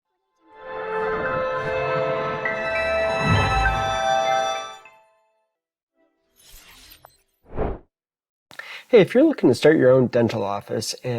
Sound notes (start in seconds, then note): 0.6 bright music; 7.4 logo whooshing